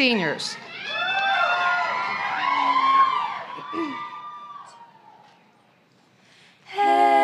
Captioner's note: applause and cheering